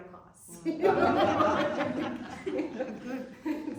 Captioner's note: laughter